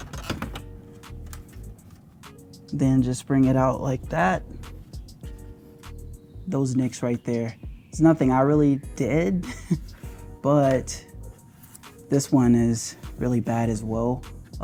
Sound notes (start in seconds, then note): 9.4 laughs